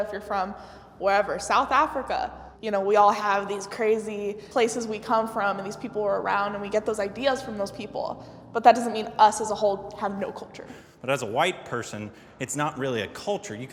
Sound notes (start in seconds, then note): none